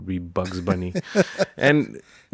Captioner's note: laughing